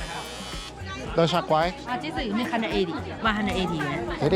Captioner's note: speaking foreign language